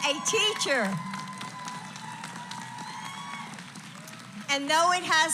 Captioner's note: applause